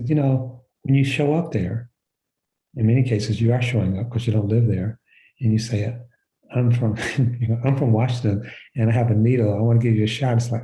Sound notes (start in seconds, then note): 6.9 chuckles